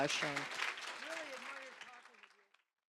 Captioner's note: applause